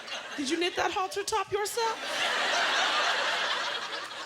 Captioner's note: laughter